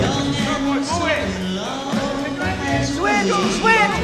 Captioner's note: men shouting; man shouting